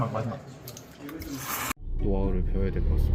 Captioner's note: slurp